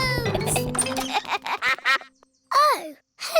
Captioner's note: giggling; quacks